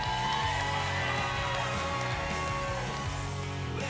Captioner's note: applause and cheering